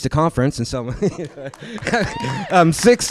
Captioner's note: laughter